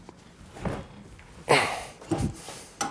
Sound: groan

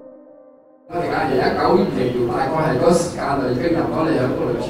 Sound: in Cantonese

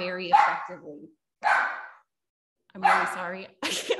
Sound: puppy continues barking

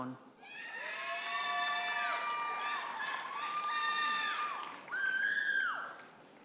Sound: audience members holler and applaud

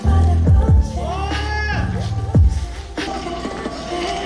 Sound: the people are cheering

